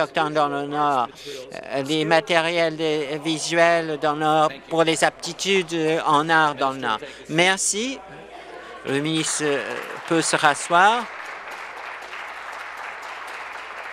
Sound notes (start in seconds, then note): 6.0 voice trailing; 12.0 applause